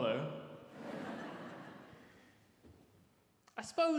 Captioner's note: audience laughs